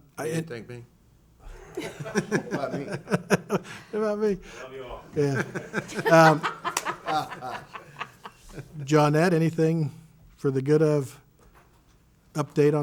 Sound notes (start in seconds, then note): 1.4 laughs; 5.2 laughs